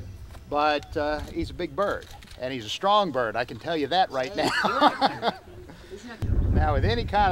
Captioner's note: laughs